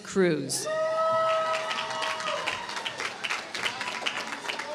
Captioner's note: applause